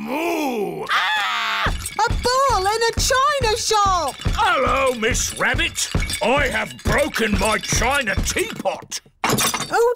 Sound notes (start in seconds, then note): 0.8 screams; 1.7 thumping